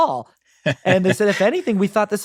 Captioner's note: chuckles